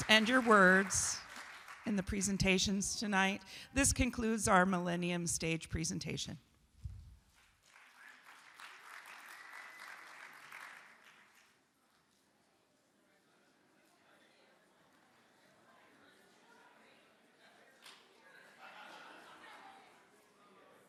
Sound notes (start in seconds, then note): 7.4 audience applauds